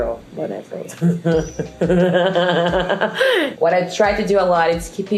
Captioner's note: laughing